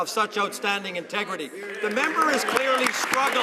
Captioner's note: some Applause